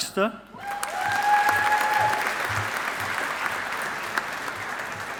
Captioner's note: audience applauding